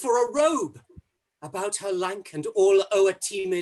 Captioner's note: none